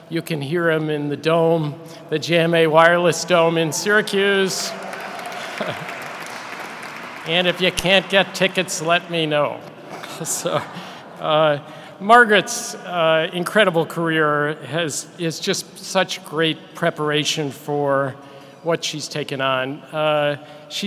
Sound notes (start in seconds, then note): 5.2 audience clapping; 9.8 audience laughing